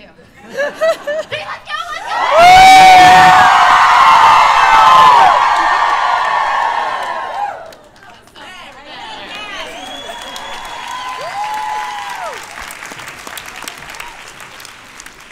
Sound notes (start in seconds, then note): 0.3 laughter; 1.7 very loud cheers; 9.4 cheers and applause